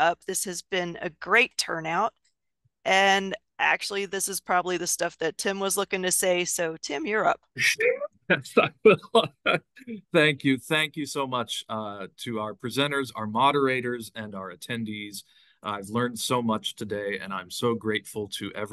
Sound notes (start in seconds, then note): 8.3 laughing